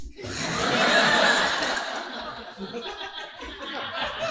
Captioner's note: audience laughing